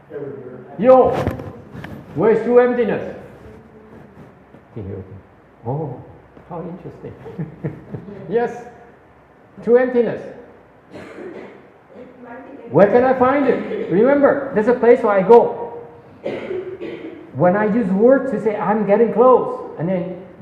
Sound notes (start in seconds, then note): 7.0 laughs